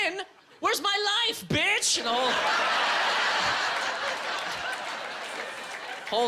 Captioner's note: audience laughing